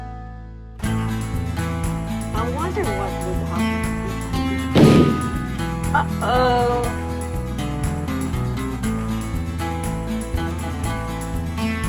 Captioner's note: bang